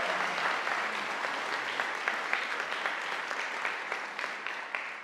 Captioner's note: audience applauding